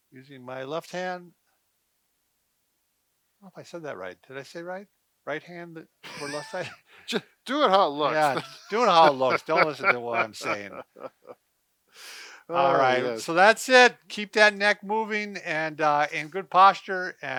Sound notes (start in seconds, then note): 6.0 laughing; 11.3 laughing; 12.0 both sighing